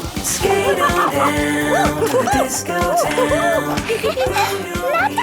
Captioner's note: laughing and exclaiming